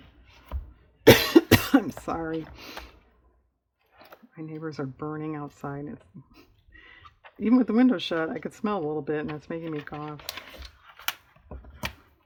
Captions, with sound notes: (coughs) i'm sorry, my neighbors are burning outside, even with the windows shut, i can smell a little bit, and it's making me cough